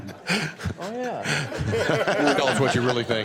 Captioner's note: laughter